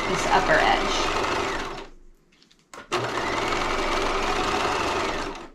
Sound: sewing machine clunking

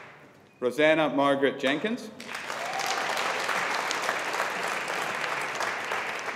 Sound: audience applauding

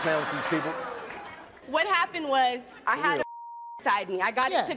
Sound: beep

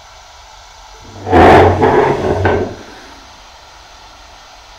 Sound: chair whirring

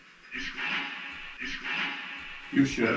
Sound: radio noise reverberating

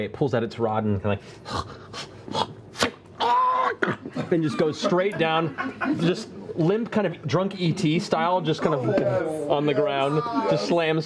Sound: grunting; arrow whooshing; cry of pain

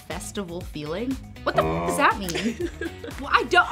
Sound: cow moos; laughs

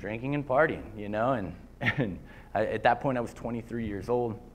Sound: laughter

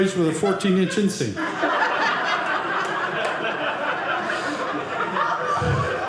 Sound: audience laughing

